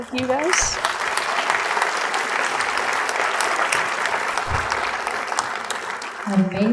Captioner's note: audience claps